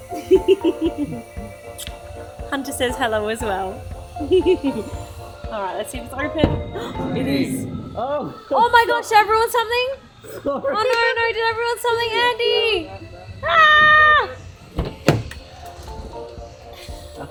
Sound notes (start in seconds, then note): 0.0 chuckles; 6.5 gasps; 13.7 excited screaming